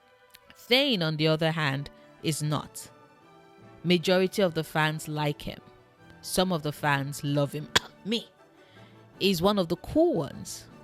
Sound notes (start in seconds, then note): 7.7 cough